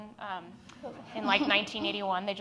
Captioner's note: audience laughs